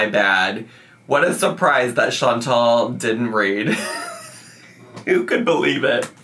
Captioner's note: laughs